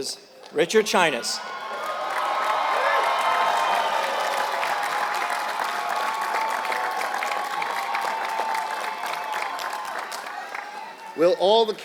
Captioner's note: applause